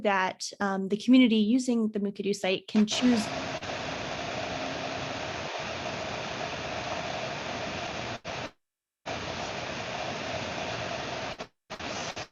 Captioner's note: static